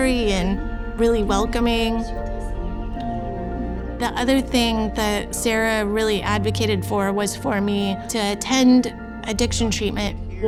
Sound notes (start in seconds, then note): 2.6 quiet conversation